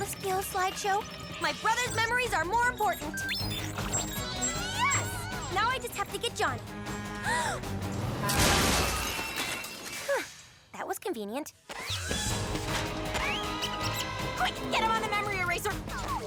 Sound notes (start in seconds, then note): 7.0 approaching honk, mary gasps; 8.2 loud crash